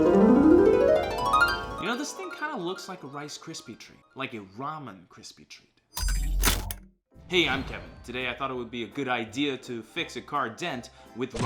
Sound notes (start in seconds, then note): 6.1 whooshing